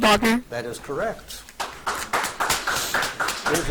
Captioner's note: audience applauds